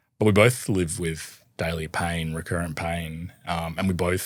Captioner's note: none